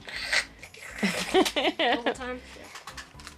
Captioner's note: laughs